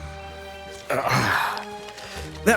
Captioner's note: sigh